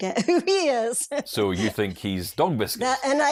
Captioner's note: hysterically laughing